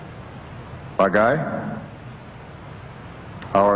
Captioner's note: non-english speech